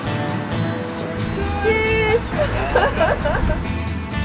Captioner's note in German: Lachen